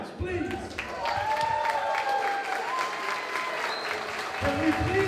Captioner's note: applause